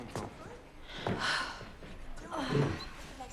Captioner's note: sighs